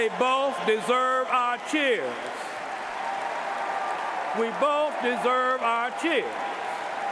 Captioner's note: cheers and applause